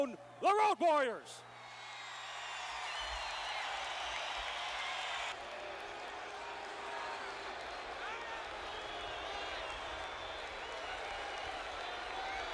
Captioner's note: applause